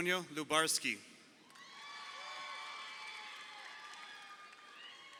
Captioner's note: crowd cheering